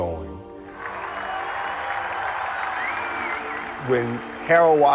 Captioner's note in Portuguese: aplausos e agitação